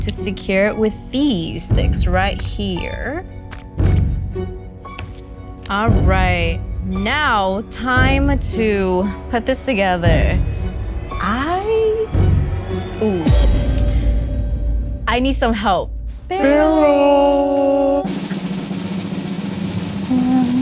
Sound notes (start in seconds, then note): 16.7 echoes; 17.3 drum roll